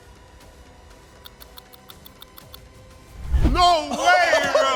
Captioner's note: clock ticks